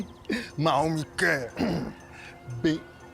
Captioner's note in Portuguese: grunhe